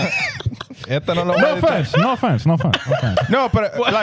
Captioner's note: laughing